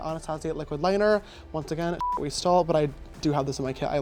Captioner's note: beep